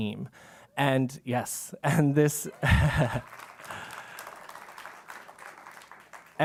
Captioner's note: applause; laugh